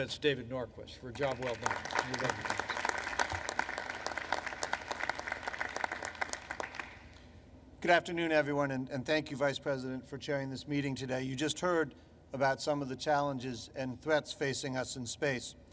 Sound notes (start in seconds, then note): 3.3 applause